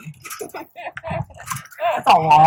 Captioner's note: laughs